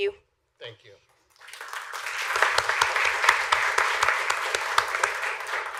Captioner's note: applause